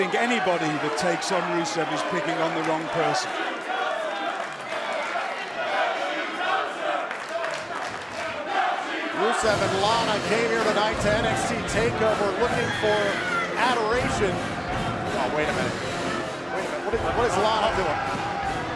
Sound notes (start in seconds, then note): 0.0 cheers & boos; 8.4 fans chanting